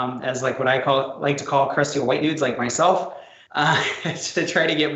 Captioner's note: laughs